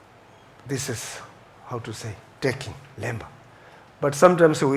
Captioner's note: tibetan language